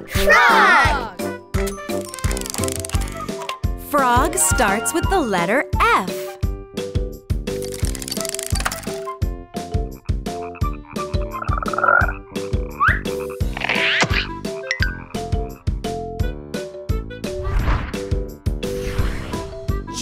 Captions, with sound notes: Frog! Frog starts with the letter F! (frog croaks)